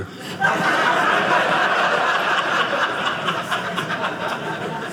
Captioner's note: audience laughing